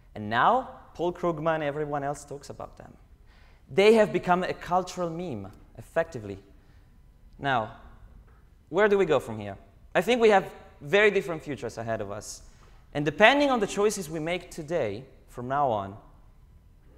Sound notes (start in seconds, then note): none